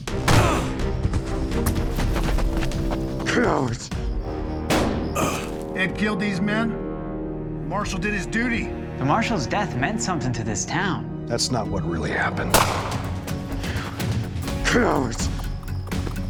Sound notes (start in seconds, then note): 0.2 fires gunshot, ed groans; 4.6 fires gunshot; 12.5 gunshot nearby